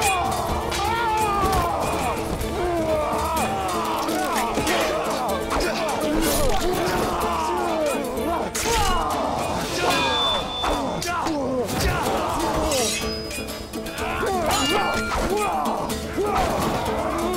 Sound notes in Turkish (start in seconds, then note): 0.3 Bağırma sesleri; 0.3 Müzik - Aksiyon; 8.5 Bağırma sesleri; 8.5 Kılıç sesleri